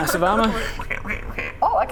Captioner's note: cranky duck protests